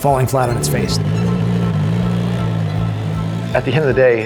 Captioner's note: car engine roaring